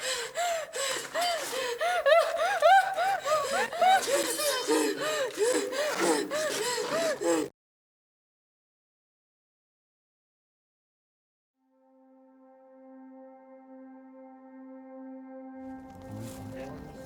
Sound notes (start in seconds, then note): 2.0 victim whimpers; 5.0 rapid gasps; 11.6 somber music